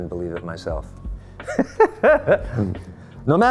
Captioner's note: laughing